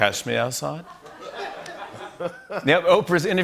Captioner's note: laughter